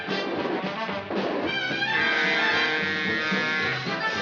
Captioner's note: horn blaring